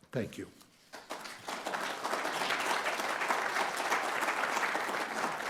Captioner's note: audience applauding